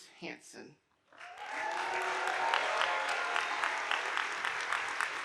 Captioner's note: audience applauding